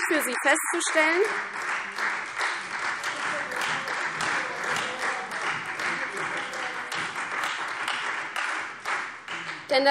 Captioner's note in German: Beifall Freie Demokraten